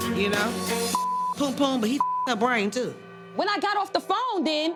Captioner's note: beep